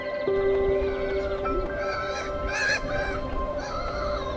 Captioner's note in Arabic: نعيق الطيور